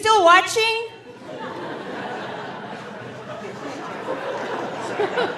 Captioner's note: audience laughing